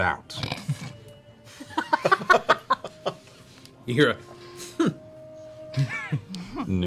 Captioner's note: laughter